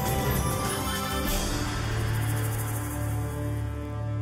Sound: chiming

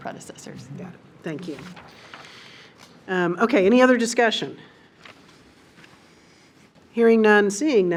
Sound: papers rustle

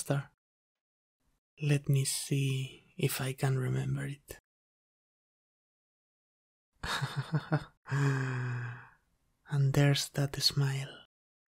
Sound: chuckle

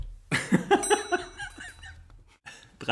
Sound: laughs

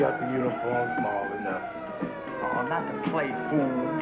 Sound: siren wails

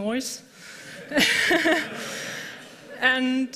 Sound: laughter

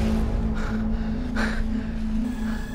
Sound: gasps

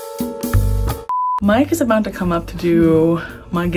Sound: beep

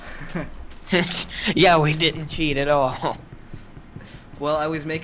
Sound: laughs

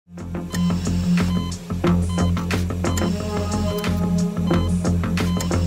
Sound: beeping, music playing

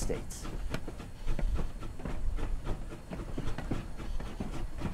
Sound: steam engine chugging

